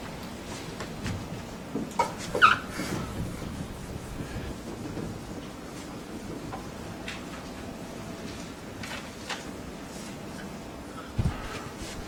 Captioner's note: whiteboard erasing